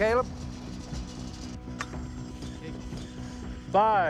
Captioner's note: high-pitched tone